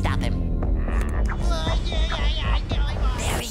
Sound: babbling

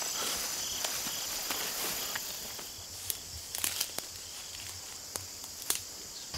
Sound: breaking branches

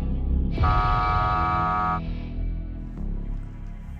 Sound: buzzer buzzing

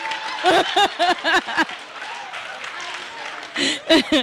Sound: laughing

